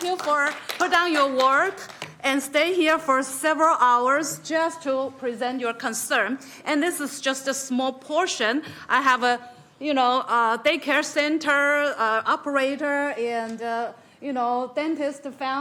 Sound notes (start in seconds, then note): 0.0 applause